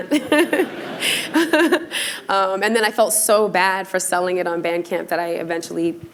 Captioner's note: laughter